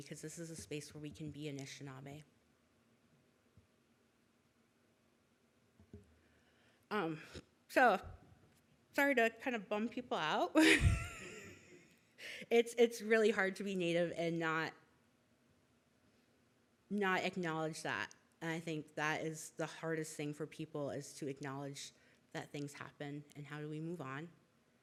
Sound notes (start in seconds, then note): 11.3 laughs